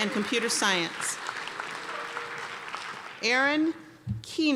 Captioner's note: applause